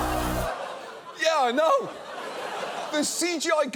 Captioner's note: audience laughing